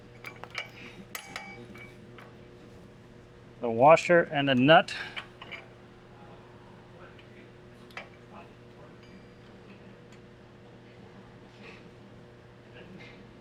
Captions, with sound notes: The washer and a nut. (metal clanking)